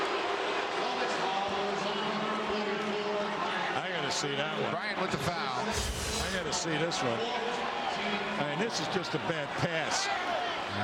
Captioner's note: crowd boos